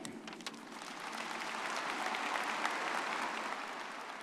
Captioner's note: everyone applauding